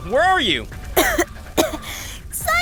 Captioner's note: coughing